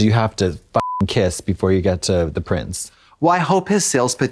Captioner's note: beep